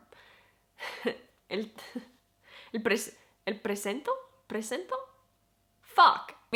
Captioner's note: in spanish